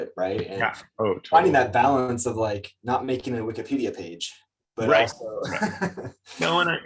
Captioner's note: chuckles